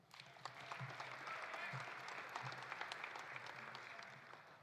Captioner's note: audience applauding